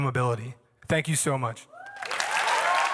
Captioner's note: applause